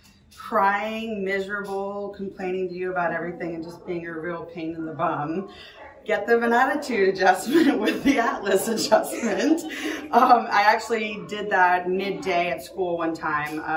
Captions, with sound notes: crying, miserable, complaining to you about everything and just being a real pain in the bum, get them an attitude adjustment (chuckles) with the atlas adjustment. I actually did that mid day at school one time.